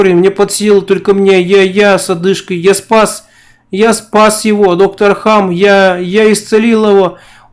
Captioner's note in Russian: с одышкой